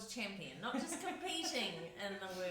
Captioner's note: laughs